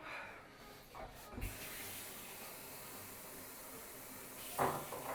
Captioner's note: tap water flowing